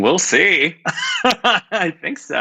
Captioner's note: laughs